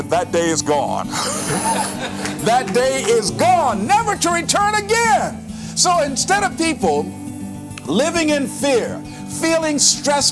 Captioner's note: chuckle